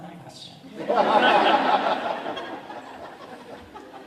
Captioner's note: audience laughs